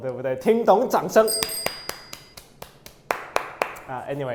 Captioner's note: applause